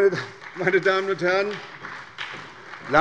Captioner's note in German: Beifall bei der SPD